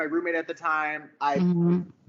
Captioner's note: none